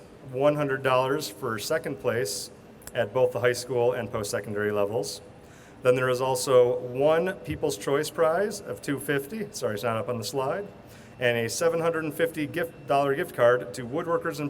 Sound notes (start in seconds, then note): none